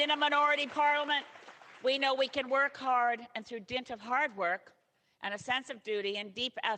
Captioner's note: applause